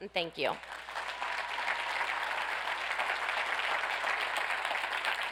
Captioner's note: audience applauds